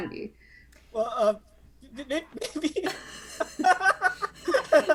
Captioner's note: laughs